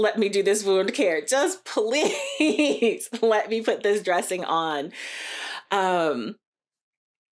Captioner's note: laughter